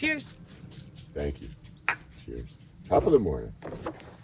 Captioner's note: cups clinking